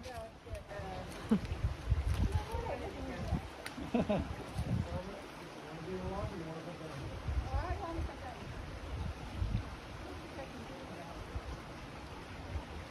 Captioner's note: water flowing; laughter